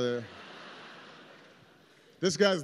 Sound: laughter

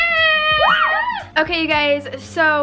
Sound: excited shouts

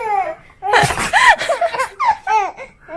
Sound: baby laughs; sneezing

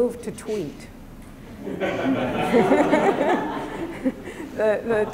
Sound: laughter

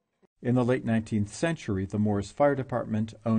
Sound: voiceover

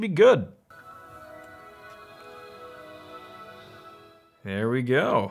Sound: computer chimes

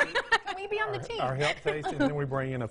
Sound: woman laughing

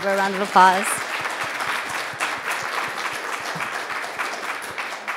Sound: audience applauding

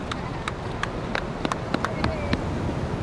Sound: team claps

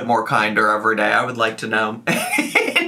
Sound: laughs

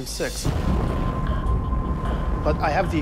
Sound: explosion blasting

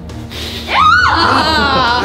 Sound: sniffing

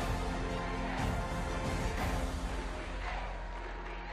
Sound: chanting "uva"

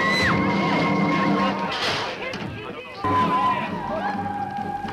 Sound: party goers chattering

